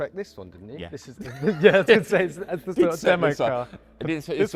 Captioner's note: both laugh and talk over each other